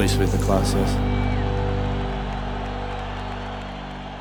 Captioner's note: crowd cheering